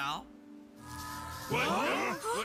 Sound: whirring

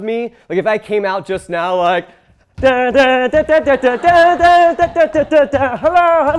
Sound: humming

